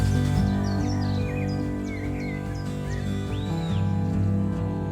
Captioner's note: birds tweeting